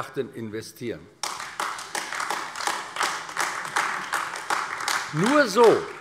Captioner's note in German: Beifall AfD